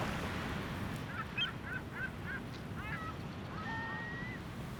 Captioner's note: seagulls squawk